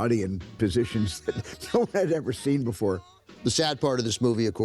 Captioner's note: chuckles